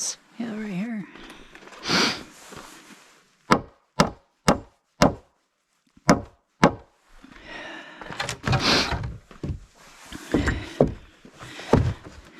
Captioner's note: hammering, grunts, and sniffles